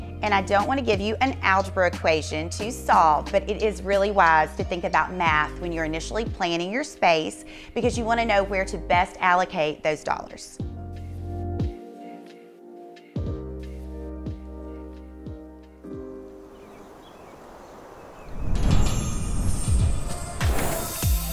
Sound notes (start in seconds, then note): 10.5 relaxing music; 16.3 birds chirping; 18.5 upbeat music